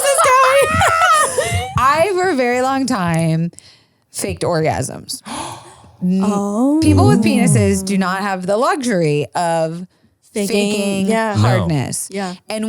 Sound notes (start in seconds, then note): 0.5 laughs; 5.4 gasps